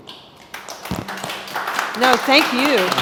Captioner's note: audience applauding